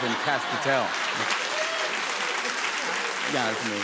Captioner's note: laughter, cheers, applause